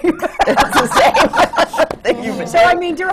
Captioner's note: laughter